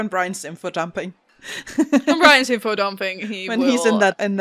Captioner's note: laughs